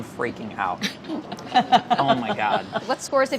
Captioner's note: laughing